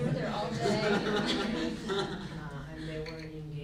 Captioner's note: group laughs